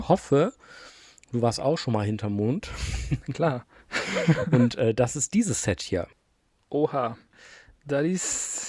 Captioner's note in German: gelächter